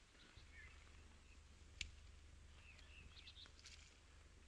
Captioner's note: birds chirping